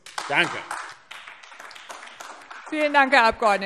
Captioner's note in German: Beifall AfD